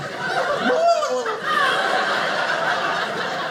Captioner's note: imitates turkey gobble; audience laughing